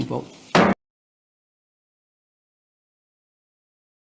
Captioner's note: gavel thuds